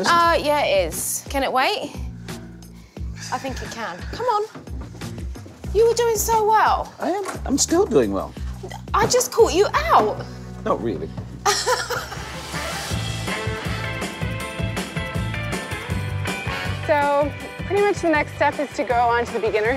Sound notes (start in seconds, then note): 11.4 laughter